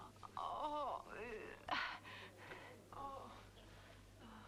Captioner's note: Hundra groans